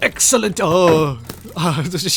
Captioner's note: surprise noise